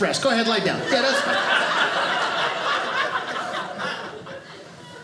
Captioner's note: audience laughing